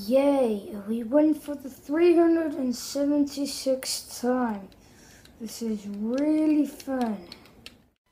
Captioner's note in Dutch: sarcastisch: dit is echt super leuk